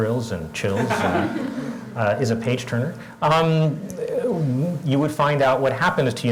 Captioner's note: laugh